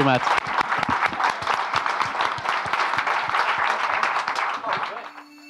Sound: audience applauding; light music

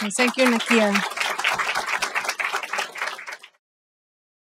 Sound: applause

